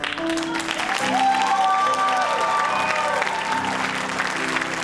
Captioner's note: cheers and applause